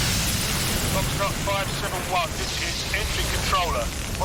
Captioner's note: man over radio